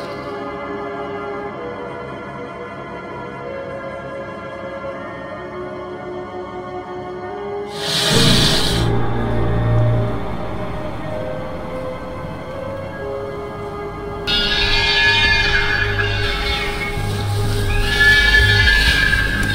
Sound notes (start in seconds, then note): 0.2 dark, ominous music; 14.3 a beast squealing